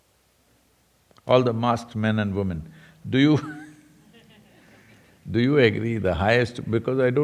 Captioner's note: laughter